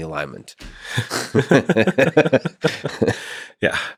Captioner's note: both laughing